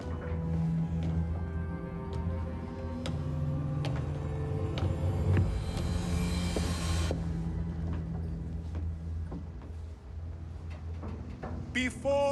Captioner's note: footsteps